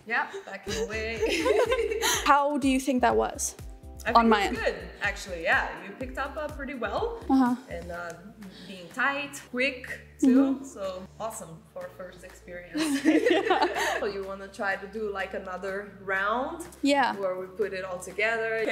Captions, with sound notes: - Yep. Back in way. (both chuckle) - How do you think that was on my end? - I think it was good, actually, yeah, you picked up pretty well and being tight, quick too. So awesome for first experience. (both laughing) So you wanna try to do like another round? - Yeah. - Where we put it all together